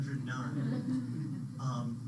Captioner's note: laughter